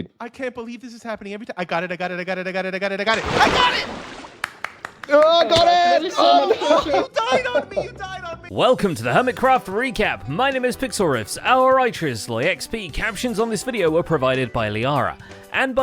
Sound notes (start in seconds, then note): 3.1 splash; 4.3 claps; 5.0 shouts